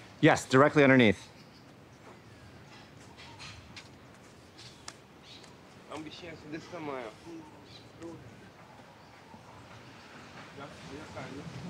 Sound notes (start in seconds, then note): 6.2 speaking in foreign language